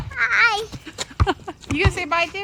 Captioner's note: laughs